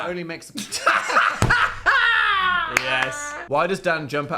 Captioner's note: both laughing